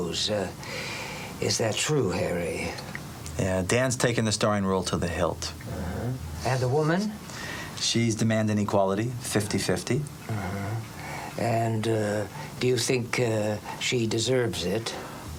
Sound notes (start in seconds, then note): none